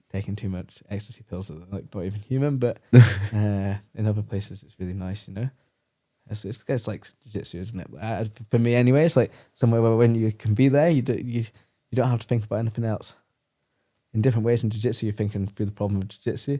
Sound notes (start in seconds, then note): 2.9 laughs